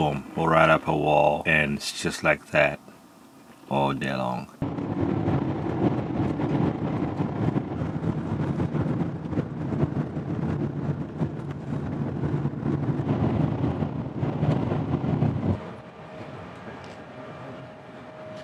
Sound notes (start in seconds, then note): 14.9 wind